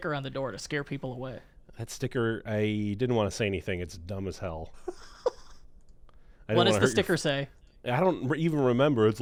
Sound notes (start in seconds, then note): 4.8 giggles